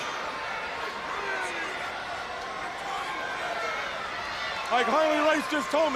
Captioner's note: crowd chatter